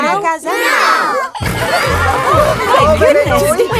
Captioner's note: giggling